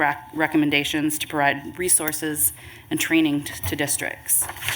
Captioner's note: rustling of papers